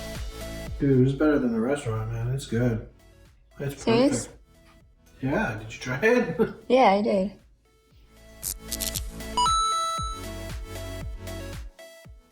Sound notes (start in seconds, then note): 0.0 drum snares; 6.1 chuckles